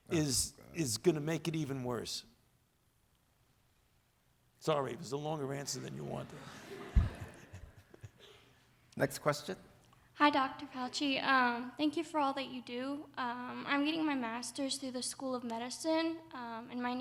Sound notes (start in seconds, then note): 5.8 audience laughs